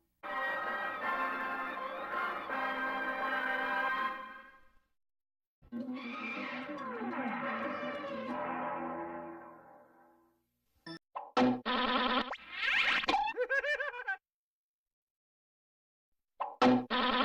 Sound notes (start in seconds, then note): 0.1 music finishes in a music snippet; 5.6 cartoon sounds resuming